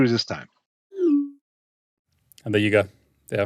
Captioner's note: text send tone